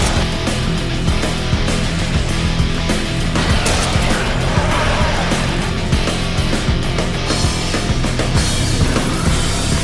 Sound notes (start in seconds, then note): 0.1 gunshot fires; 3.4 monster roaring; 3.4 gunshot fires